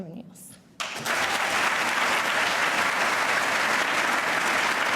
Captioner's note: audience applauds